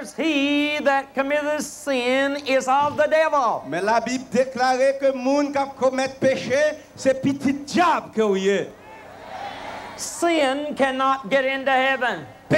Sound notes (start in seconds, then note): 8.7 crowd cheering